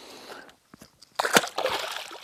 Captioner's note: splash